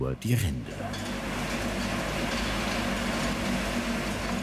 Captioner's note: machine noises